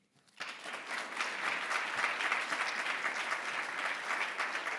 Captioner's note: audience applause